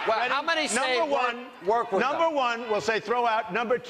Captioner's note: audience reacts